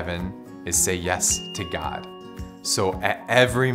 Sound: bell dings

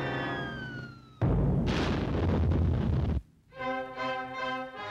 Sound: explosion

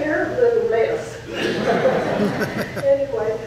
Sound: audience laughs

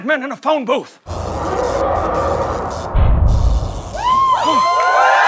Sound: zapping; cheering

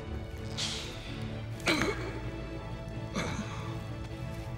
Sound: grunt

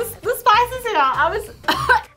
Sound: coughs

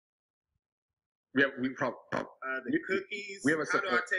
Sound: distorted audio

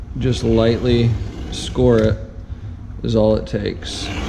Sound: knife cutting

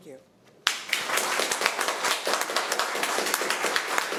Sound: applause

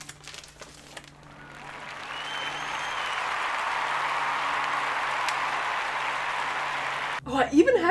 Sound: stadium applause & cheers

